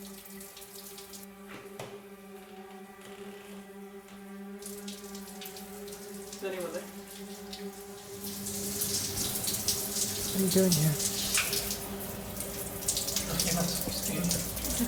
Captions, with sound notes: [sound of door creaking open] Is anyone there? What are you doing here? Look, you're not supposed to be in here.